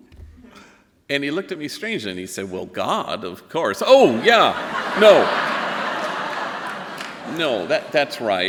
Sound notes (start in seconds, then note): 4.0 laughing